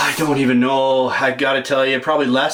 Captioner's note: voiceover